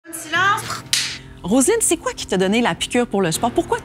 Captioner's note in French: clap de début